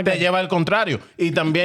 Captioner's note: speaking In Foreign Language